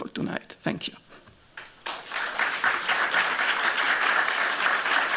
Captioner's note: applause